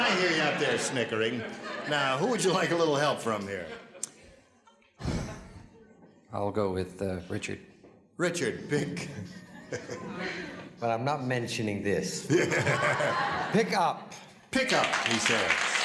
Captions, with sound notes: Now, who would you like a little help from here? -(sighs) I'll go with, uh, Richard. -Richard, pick... (chuckles) -Well, I'm not mentioning this. (laughter) Pickup. -Pickup, he says. There's a good one.